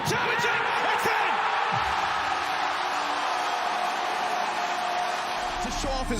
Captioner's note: crowd cheers and applauds